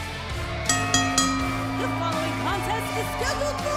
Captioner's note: bell rings